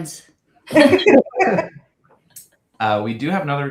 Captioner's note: laughter